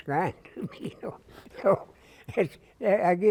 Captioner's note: laughter